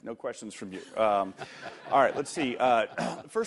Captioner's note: laughter